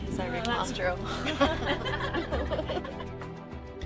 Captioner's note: all laughing